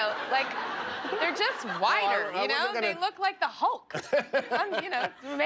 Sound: laughter

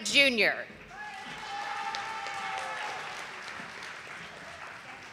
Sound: audience applauding

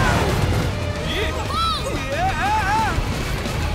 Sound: yelling

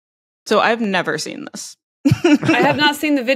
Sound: laughs

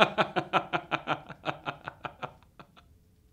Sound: laugh

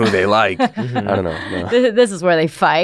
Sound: laughs

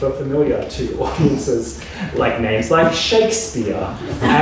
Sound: audience laughs

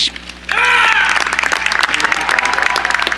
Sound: cheering

